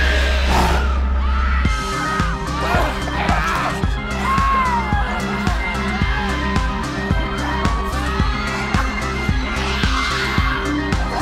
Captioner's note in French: hurlements d'humains